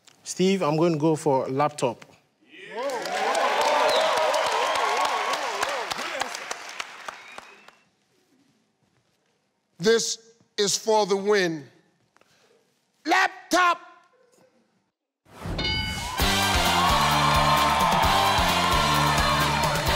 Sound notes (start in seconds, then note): 2.6 cheering; 16.0 cheering and upbeat music